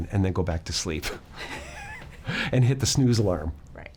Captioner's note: laughing